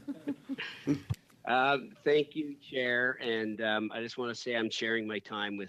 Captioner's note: speaking French